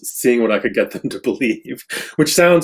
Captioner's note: laughs